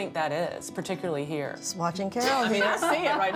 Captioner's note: laughs